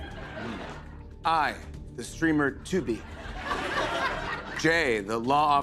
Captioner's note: laughter